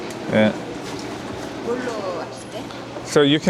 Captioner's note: speaking korean